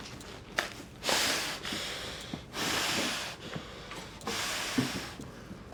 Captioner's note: puffing